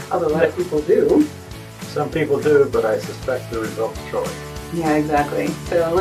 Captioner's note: talks off mic